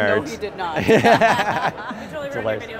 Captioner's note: laughs